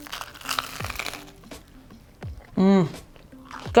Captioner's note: bread crunching